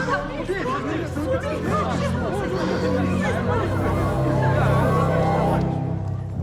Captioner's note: chattering gets louder